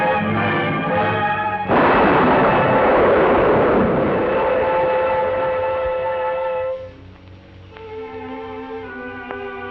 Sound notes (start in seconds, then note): 1.6 explosion